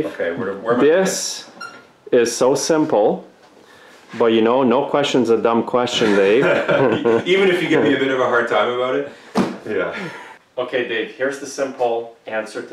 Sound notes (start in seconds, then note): 6.4 guffaws